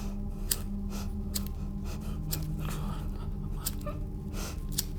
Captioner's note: lighter flickering